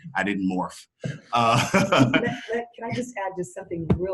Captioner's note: laughs